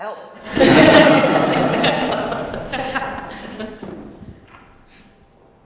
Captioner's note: laughter